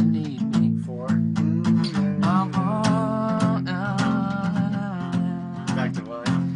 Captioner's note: humming